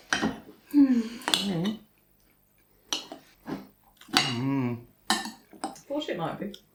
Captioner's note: contented sighing and moaning